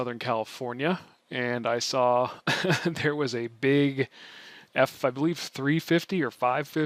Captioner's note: laughs